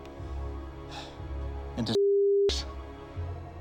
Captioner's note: none